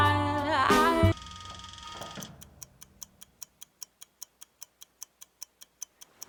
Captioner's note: clock whirring and ticking